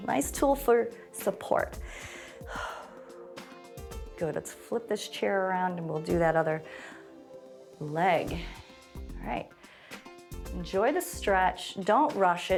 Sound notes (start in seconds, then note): 1.8 inhales and exhales